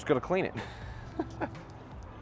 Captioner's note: chuckles